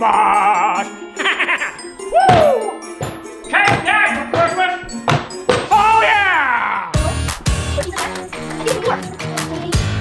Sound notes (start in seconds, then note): 0.0 Grinch laughing; 7.3 upbeat music